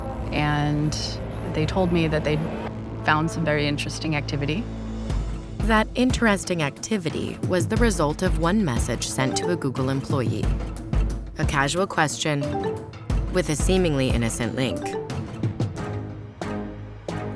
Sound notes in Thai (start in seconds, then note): 12.4 เสียงข้อความเข้า; 15.9 ดนตรีเร้าอารมณ์